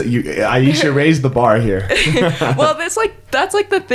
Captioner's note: chuckles